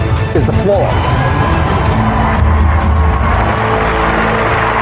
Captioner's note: cheering and applause